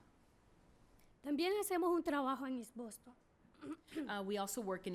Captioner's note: speaking spanish